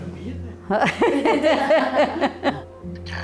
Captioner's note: laughs